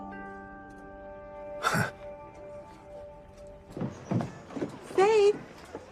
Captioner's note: nervous laugh